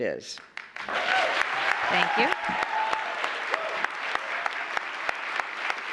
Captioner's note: applause